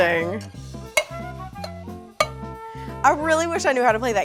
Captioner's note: metal clanking